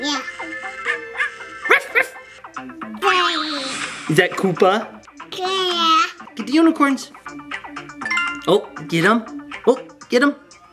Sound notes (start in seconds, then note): 0.9 dog barking